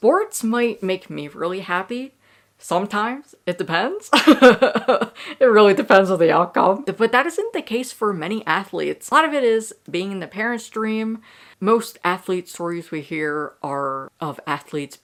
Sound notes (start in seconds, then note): 4.2 laughs